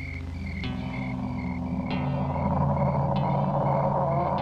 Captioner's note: creature groaning